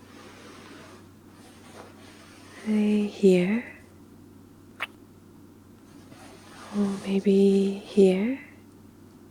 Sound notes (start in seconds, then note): 4.8 kiss